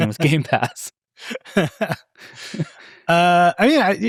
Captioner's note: participants laughing